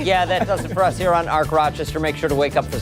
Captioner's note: laughter